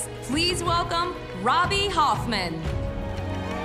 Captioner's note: cheers and applause